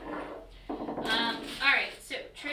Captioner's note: knock